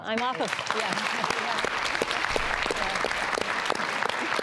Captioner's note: applauding